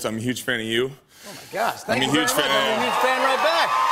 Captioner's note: cheers and applause